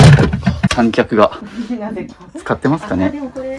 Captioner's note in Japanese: 笑い